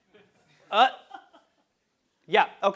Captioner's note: laugh